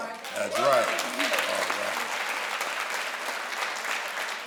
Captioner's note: crowd applauds